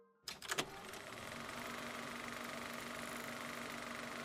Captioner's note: film reel whirring